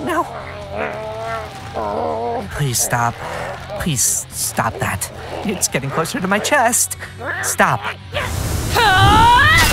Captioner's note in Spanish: ruidos de esfuerzo de trasgo